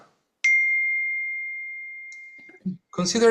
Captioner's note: phone dings